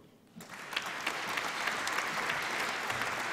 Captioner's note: applause